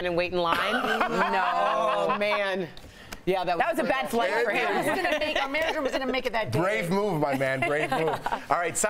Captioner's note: laughter